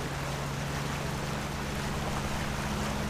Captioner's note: water sounds